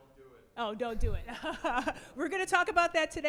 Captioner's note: laughs